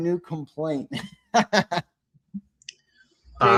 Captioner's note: laughs